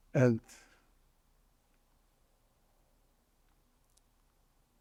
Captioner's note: pauses 6 seconds